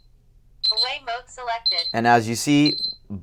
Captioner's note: beeping